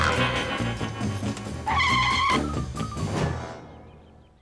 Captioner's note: logo whooshes; suspenseful music; tires screech